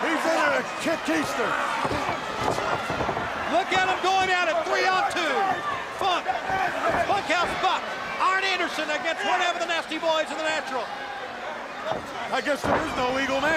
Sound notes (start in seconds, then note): 2.8 crowd chatter